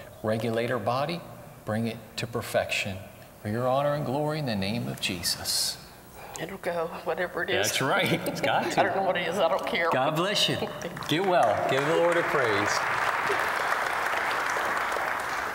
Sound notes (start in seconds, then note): 8.0 laughter; 11.1 laughter; 12.7 applause